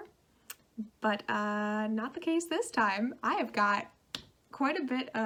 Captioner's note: clap